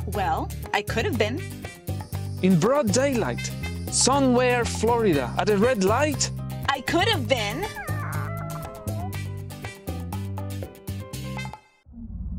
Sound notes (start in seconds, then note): 7.5 cat's meow; 12.2 dark music